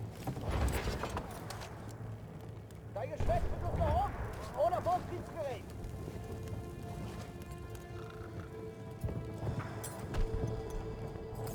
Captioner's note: speaking German